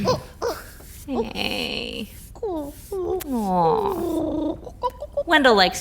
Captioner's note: Wendell purring